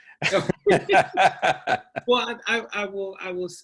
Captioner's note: both laughing